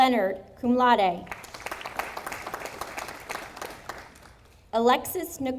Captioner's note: audience applauding